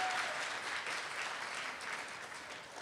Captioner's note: cheering and applause